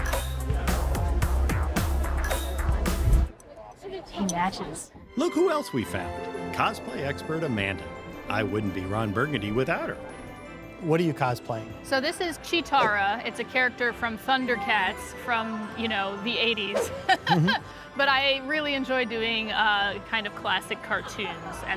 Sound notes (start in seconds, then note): 0.0 funky pop music continues; 16.7 laughs